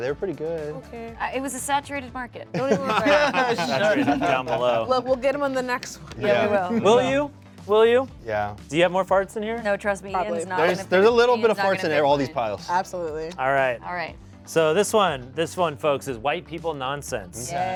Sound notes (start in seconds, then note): 2.5 laugh